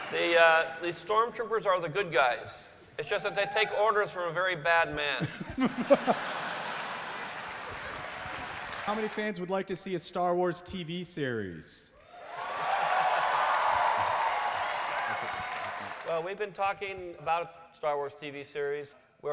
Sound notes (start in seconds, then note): 5.2 laughter; 7.5 applause; 12.0 cheering and applause